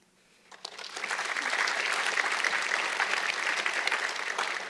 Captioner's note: audience clapping